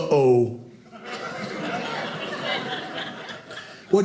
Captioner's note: audience laughing